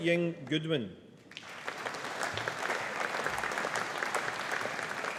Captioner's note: audience applauding